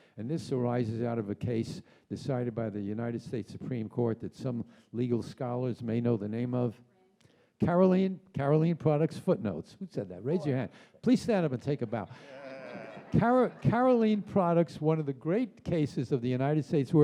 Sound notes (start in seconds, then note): 11.8 audience laughs; 12.2 audience cheers